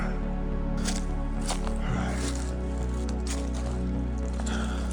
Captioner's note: leaves rustling